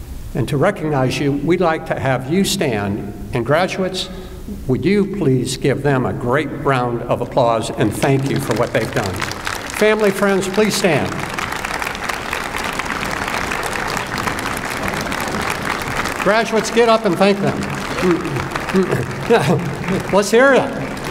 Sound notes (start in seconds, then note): 11.1 applause; 17.4 applause